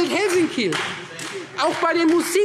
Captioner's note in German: Beifall Freie Demokraten